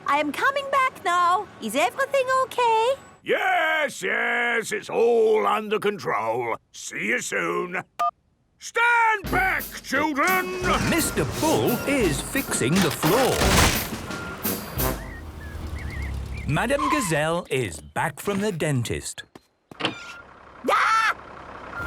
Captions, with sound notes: I am coming back now. Is everything okay? - Yes, yes! It's all under control. See you soon! Stand back children! - (tractor noise, floorboards cracking) - Mr. Bull is fixing the floor. Madam Gazelle is back from the dentist. - (tractor noise) - Arghhh!